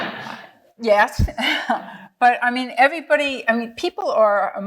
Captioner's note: laughing; chuckling